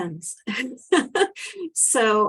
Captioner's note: chuckles